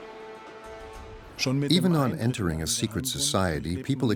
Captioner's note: speaking German